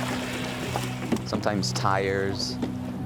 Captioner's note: paddles splashing